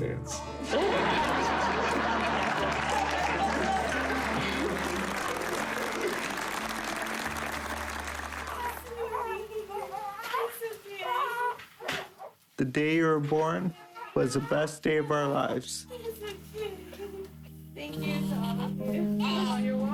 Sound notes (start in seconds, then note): 0.6 laughter; 2.9 applause; 11.0 baby crying